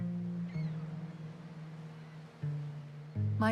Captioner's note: gulls calling